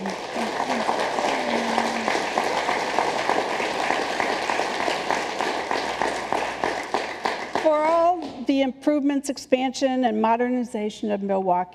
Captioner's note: applause